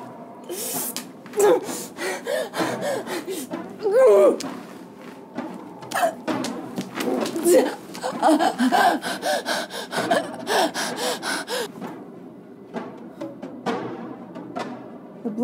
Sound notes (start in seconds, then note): 1.4 panting; 8.5 gasping; 11.9 dramatic music continues